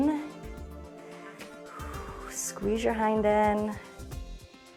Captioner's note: inhales and exhales